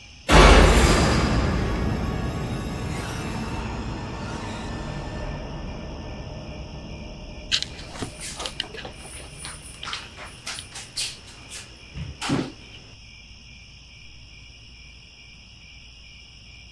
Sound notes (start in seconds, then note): 8.6 crickets